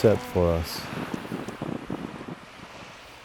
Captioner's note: wind and waves